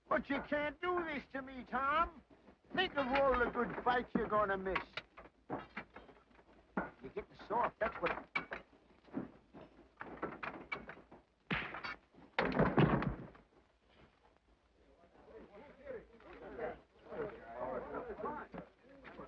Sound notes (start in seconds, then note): 11.5 fist smacks; 13.0 barrels clatter; 15.1 men chatter